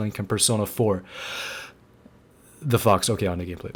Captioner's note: inhale